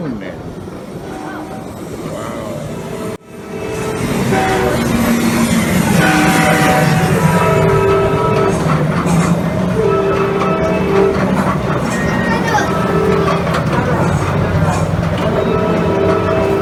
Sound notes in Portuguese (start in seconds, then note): 3.5 som de trem dentro de tunel